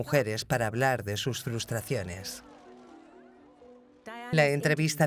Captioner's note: crowd cheers loudly